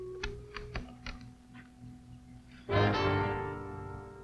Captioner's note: door opening